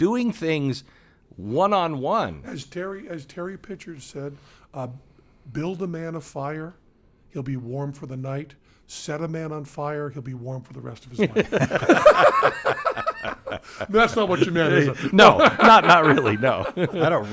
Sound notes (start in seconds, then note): 11.2 group laughing